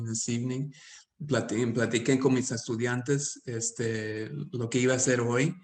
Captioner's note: speaking Spanish